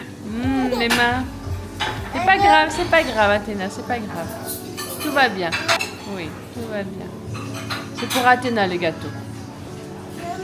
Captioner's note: speaking in foreign language